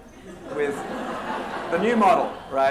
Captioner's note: laughter